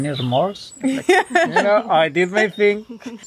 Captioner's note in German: lachen